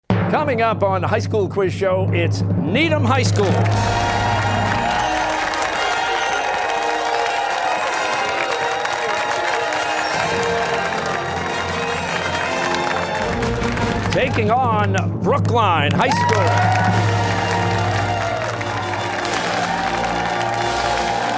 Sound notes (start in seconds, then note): 5.7 fanfare; 8.1 cheers and applause; 16.0 fanfare